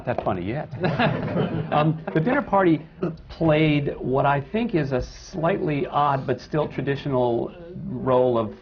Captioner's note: laughter from the panel; laughter